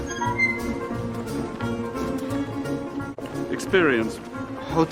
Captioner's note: door squeaks; bustling music